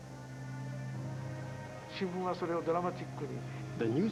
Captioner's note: speaking Japanese